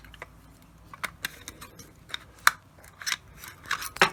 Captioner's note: clanking